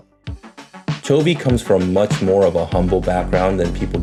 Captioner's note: in English